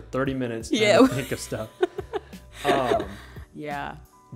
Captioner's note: both laughing